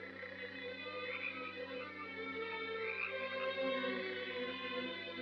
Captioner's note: frogs croaking